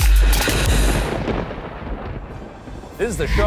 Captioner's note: thunder booming